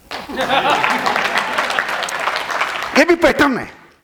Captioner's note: applauds and laughs